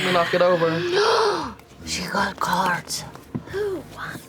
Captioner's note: gasps